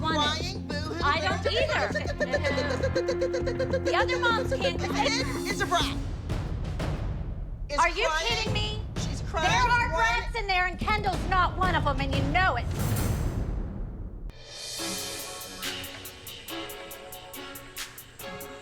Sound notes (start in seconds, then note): 1.9 makes chirping sound